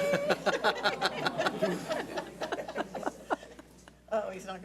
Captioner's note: audience laughs